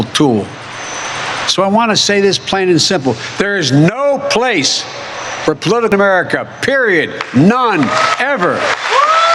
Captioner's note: cheering and applause